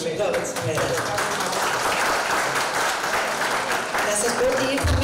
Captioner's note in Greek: χειροκροτήματα